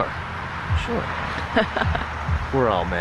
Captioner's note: laughs